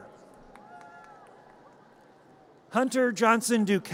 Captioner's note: audience cheers